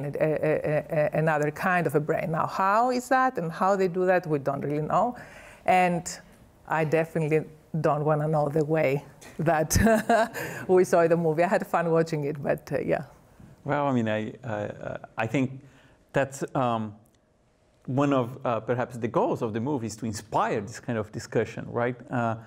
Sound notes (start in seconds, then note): 9.6 laughs